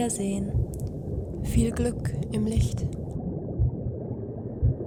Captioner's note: different voice